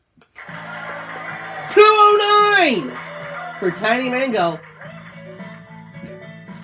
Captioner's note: loud cheers and applause